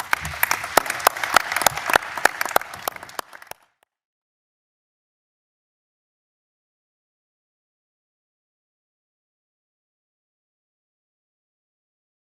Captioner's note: applause